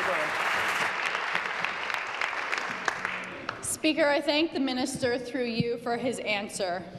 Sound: applause

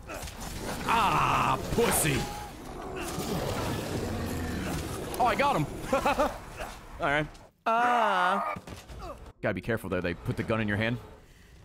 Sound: laughs

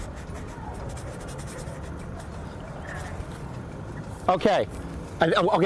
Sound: drawinng soudns

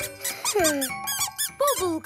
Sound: groaning

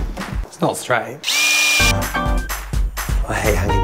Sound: drilling

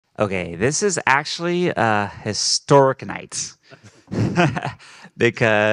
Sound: laughing

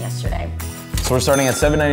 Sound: cash register rings

